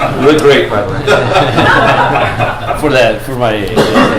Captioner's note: laughter